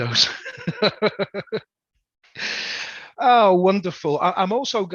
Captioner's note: laughs